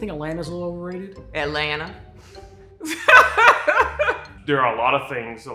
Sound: laughs

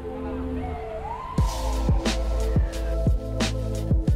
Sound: police sirens wail

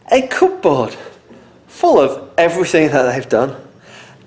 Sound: none

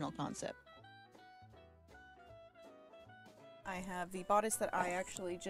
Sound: none

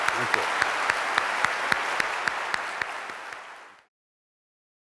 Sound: applause

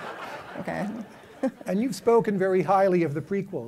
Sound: laughter

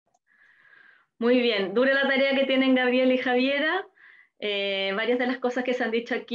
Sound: speaking foreign language

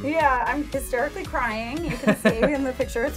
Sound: laughter

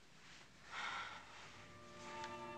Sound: sigh

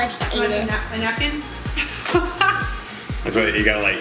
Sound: laughs

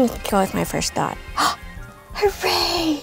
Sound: gasping

